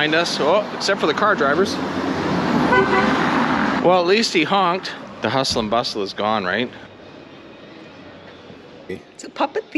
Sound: honk honk

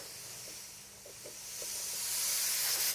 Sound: nozzle hisses

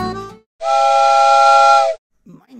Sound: horn

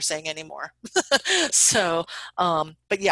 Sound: laughs

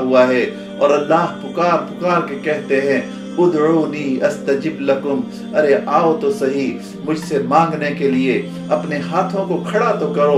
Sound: Arabic

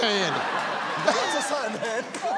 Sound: audience laughs

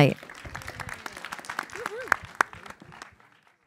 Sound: applause

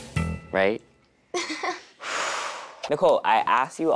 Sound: laughing

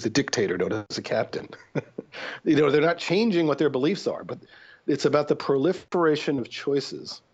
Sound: chuckle

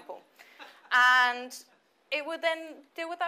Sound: audience laughs

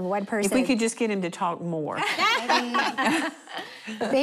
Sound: laughing

